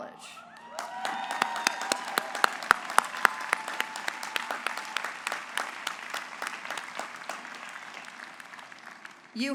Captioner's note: applause